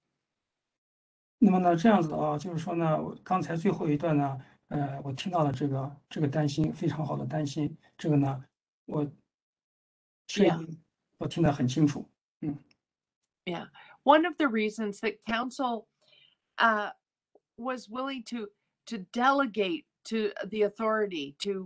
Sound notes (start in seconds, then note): 4.7 speaks in Mandarin